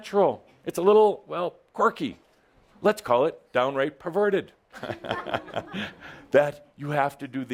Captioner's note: Adamus chuckles